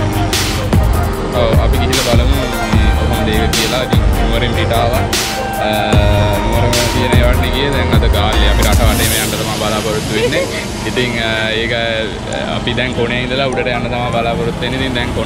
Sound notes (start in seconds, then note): 10.0 laughing